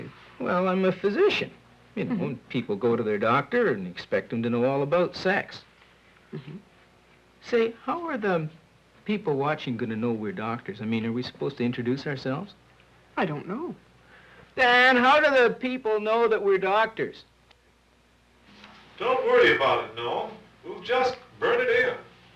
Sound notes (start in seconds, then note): 14.3 shouting; 18.7 over intercom